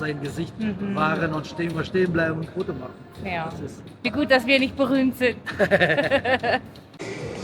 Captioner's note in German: gelächter